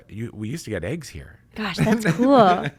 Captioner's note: laughs